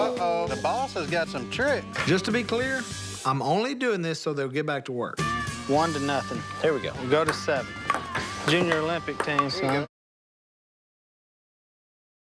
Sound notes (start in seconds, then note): none